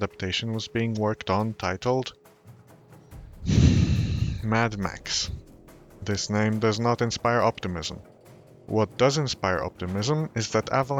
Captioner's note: sigh